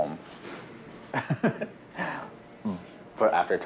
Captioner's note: laughs